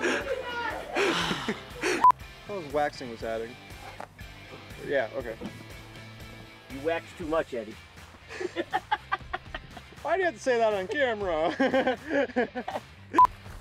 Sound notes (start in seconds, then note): 1.1 exhales sharply; 8.2 laughs